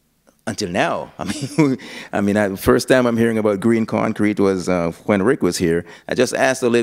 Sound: chuckle

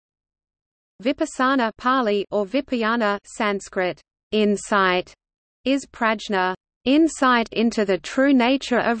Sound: Pāli

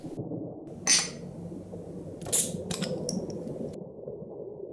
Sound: cap pops

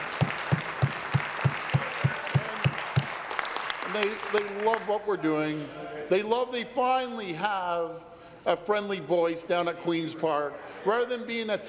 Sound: applause

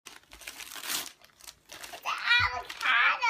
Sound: gift unwrapping noises

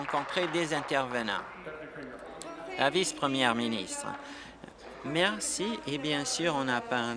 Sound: applause

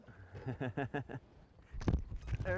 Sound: laughter

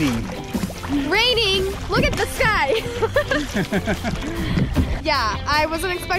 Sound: laugh

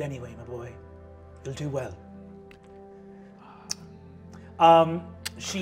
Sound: kiss blowing

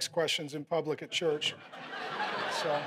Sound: congregation laughing

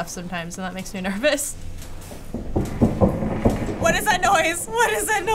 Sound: loud pounding

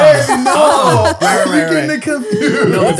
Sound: they all laugh

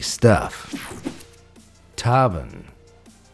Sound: image whooshing

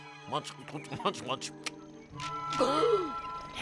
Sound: car sputtering

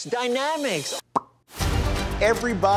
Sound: lip smack

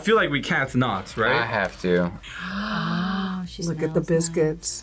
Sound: gasps

